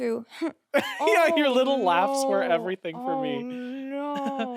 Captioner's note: chuckles; laughs